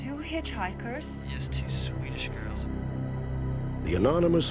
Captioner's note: on phone